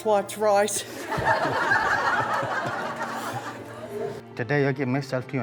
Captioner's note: guests laughing